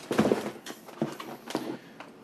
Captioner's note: camp supplies rattling